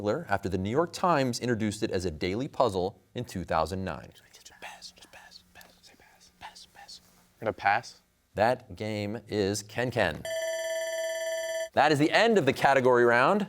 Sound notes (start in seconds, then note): 4.5 whispers; 10.2 bell ringing